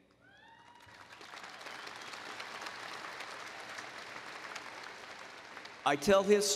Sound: applause

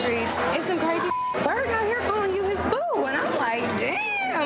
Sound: beep

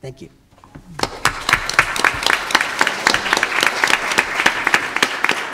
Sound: audience applauding

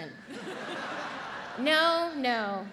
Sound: audience laughs

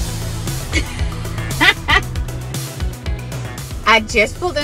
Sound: upbeat music; laughing

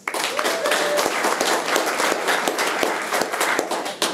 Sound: room applauds

